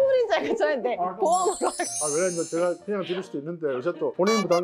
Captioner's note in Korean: 웃음